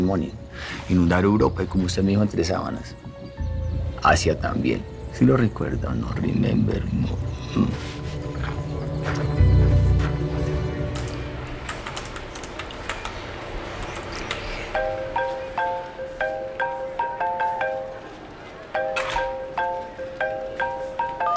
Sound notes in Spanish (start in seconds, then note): 11.5 Tecleos; 14.7 Suena el celular